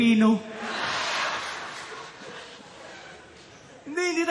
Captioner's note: laughter